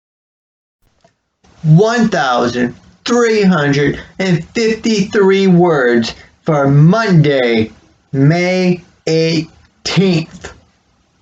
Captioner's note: click